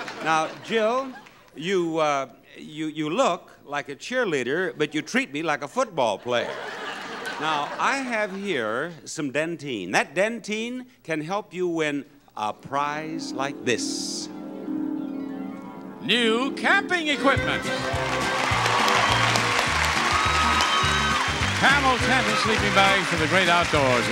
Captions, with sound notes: Now Jill, you look like a cheerleader, but you treat me like a football player. Now I have here some Dentyne. That Dentyne can help you win a prize like this. (whimsical tune) New camping equipment. (audience applauds) Camel's tent and sleeping bags for the great outdoors